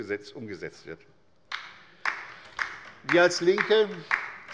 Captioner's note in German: Beifall bei der LINKEN